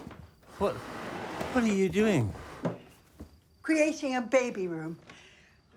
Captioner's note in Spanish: none